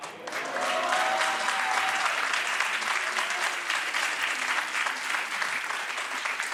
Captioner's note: audience applauds; audience cheers